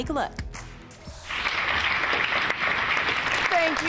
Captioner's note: applause